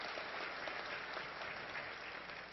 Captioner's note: applause